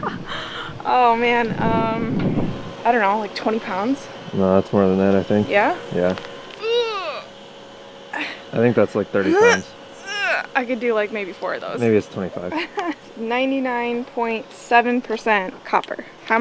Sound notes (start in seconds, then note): 0.3 laughing; 6.6 grunting; 9.9 grunting; 12.5 laughing